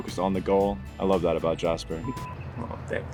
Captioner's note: camera beeps